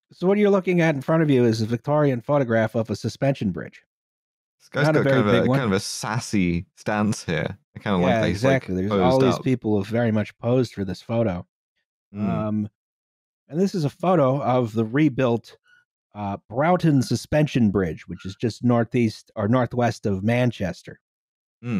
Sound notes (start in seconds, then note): 15.6 washing machine squeaks